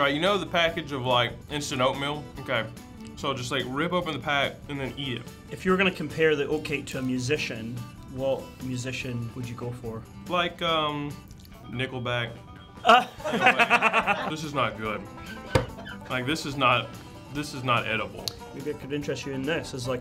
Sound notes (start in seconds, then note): 12.8 laughing